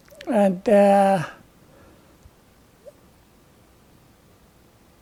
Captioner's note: pauses 6 seconds